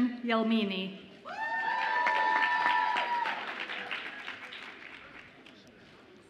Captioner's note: audience applauds and cheers